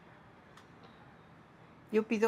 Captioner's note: in spanish